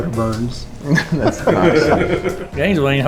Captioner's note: laughs